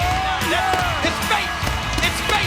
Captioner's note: fireworks bang